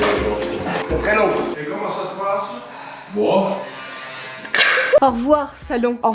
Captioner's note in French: rires